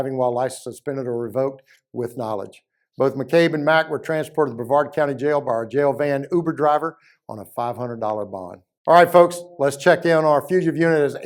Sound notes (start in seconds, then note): none